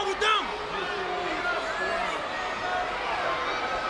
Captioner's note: crowd yelling